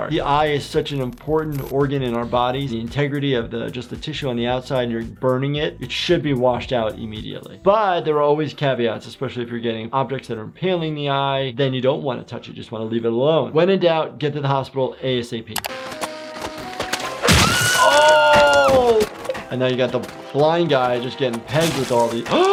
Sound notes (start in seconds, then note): 15.8 slingshot creaking; 17.2 Petunia screaming